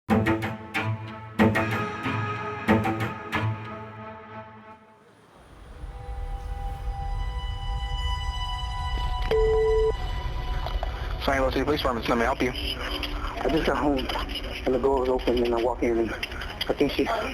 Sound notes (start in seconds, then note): 9.2 line beeps